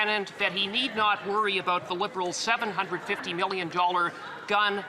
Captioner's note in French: voix de l'interprète